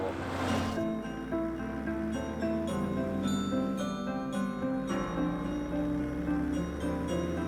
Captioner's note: car engine roaring; gentle chiming music